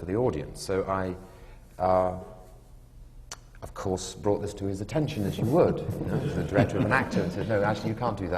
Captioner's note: laughter